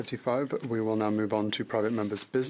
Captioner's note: speaking French